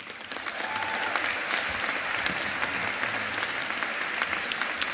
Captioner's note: audience applauding